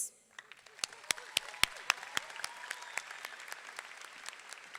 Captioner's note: all clapping